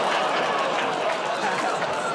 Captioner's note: laughter, audience "Aw"s